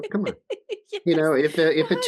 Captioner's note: laughs